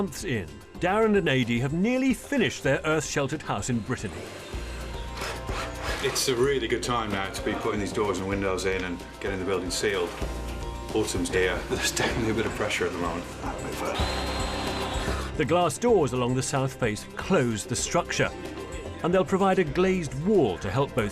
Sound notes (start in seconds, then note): 4.1 electric screwdriver buzzing; 13.8 electric screwdriver buzzing